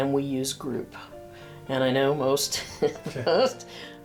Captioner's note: chuckles